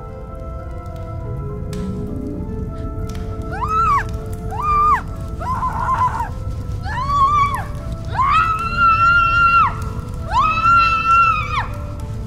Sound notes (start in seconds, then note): 3.8 Sheila screaming